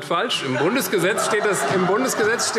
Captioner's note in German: Lachen SPD und Freie Demokraten